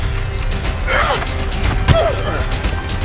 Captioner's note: grunting and Sound of Struggle